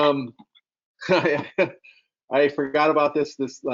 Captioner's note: chuckles